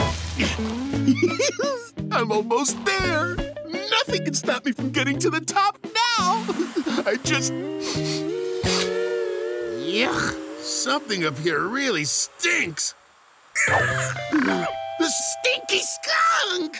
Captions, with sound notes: [giggling] I'm almost there. Nothing can stop me from getting to the top now! I just... yuck! Something up here really stinks. The stinky skunk!